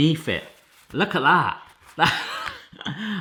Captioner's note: laughs